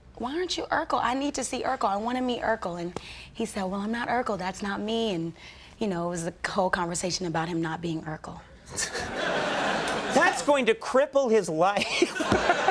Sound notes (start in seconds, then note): 8.8 audience laughing; 11.8 Conan laughing; 11.9 audience laughing